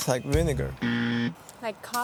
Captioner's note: buzzer blaring